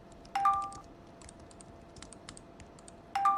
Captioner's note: notification sound; notification sound